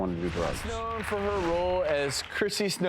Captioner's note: audience applauds